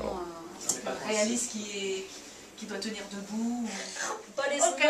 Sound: speaking in foreign language

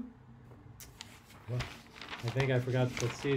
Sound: paper rustling

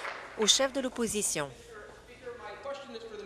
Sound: applause

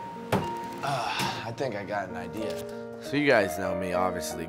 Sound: exhales

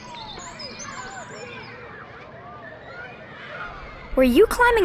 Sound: sounds of kids playing

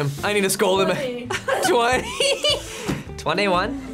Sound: laughs

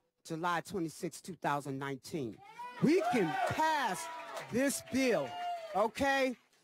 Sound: cheers

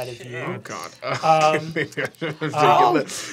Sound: laughing

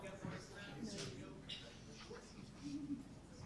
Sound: group chatter

